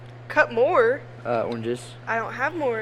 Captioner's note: none